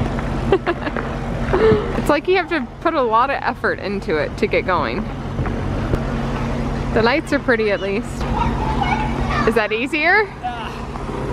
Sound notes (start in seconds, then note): 1.5 laughs